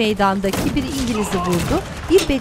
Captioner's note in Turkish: İnleme sesi